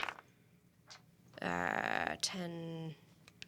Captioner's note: rolls dice